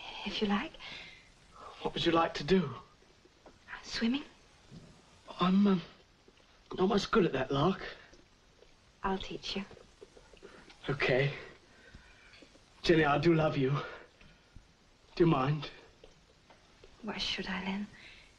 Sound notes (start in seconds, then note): none